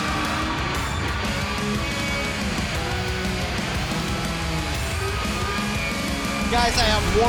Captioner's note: cheers & applause